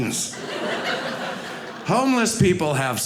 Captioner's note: audience laughing